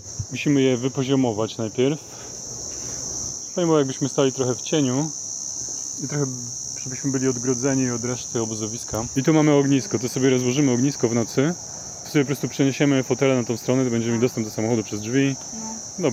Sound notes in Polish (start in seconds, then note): 2.4 australijskie świerszcze w tle